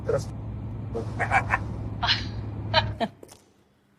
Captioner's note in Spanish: Risas